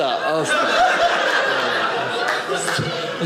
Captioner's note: audience laughing